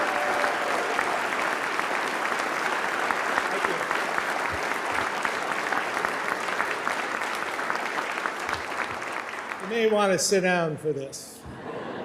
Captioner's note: applause